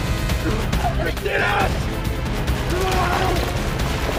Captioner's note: anthony screams